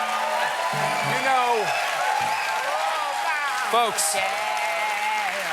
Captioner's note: cheers and applause